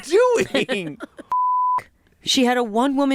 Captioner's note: beep